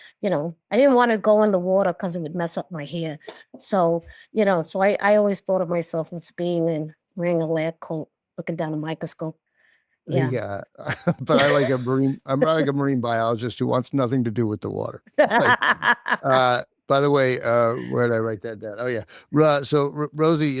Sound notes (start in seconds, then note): 10.3 both chuckle; 15.2 laughs